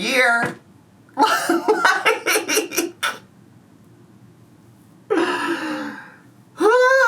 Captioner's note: laughing